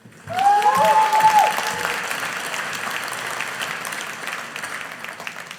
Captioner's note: audience applauding